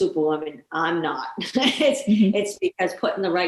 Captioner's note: chuckling